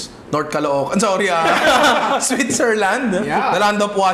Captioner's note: laughter